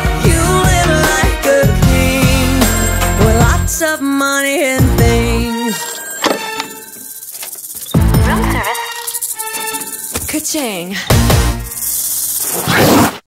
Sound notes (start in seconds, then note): 5.4 phone ringing; 6.4 rattle snake rattling; 11.5 rattle snake hissing